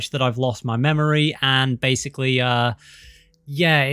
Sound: breath

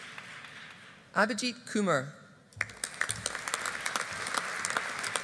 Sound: audience applauding

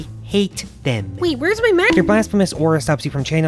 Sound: bonk sound effect

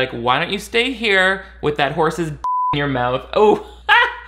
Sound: beep

